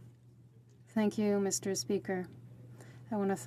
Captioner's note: speaking French